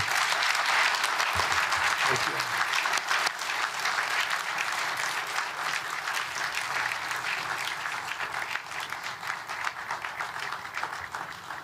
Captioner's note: applause